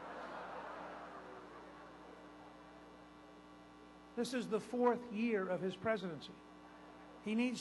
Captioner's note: laughter